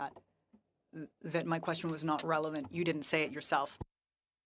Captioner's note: speaking French